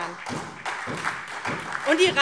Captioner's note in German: Beifall SPD und vereinzelt DIE LINKE